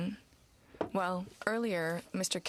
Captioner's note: speaking french